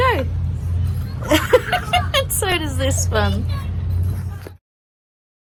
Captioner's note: cackles